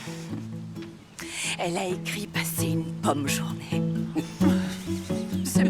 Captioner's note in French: rires